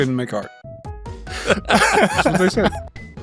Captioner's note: laughs